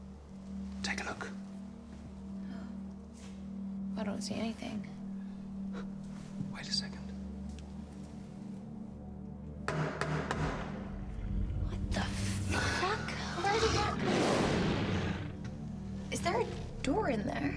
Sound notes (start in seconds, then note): 8.3 dramatic music; 9.7 door knocking